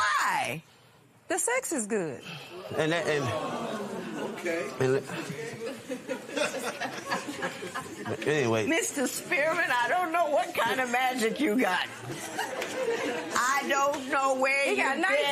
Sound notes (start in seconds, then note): 5.1 laughter